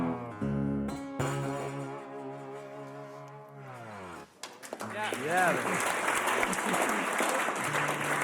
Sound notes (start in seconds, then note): 4.4 audience applauds